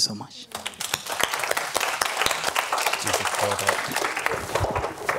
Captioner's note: audience clapping